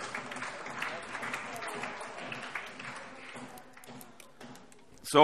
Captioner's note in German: Allgemeiner Beifall